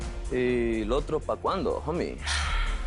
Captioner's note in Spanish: Víctor exhala